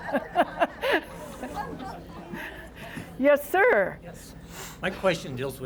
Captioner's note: laughter